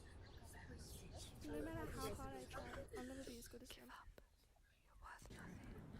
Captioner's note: child Whispering; more whispers